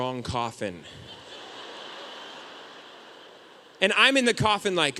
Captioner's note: audience laughing